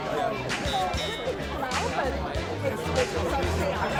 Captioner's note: crowd chattering